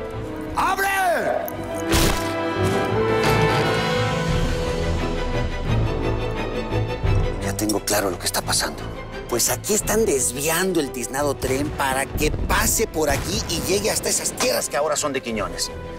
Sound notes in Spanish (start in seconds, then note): 1.6 Golpetazo